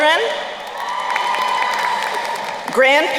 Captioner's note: crowd cheering and applauding